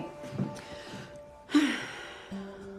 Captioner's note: sighs